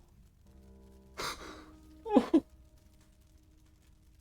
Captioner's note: small cry